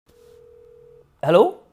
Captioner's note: phone ringing